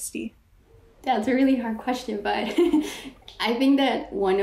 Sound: laughs

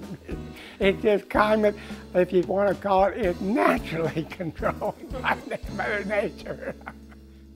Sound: laughing

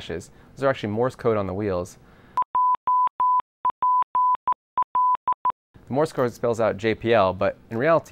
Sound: morse code sound effect

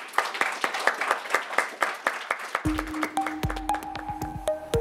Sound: audience applauding; inquisitive music

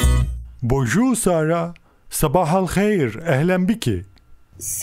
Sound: in Arabic

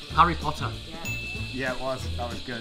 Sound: correct ding

